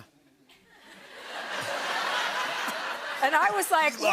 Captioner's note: laughter